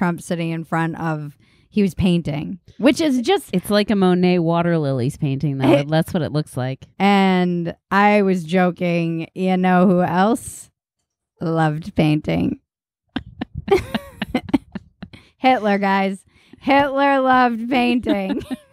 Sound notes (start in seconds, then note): 13.1 Cousin Maggie laughing